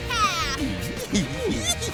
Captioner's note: giggling